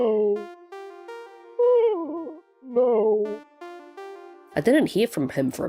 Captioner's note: sigh; narrating